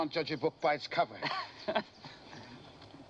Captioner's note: laughing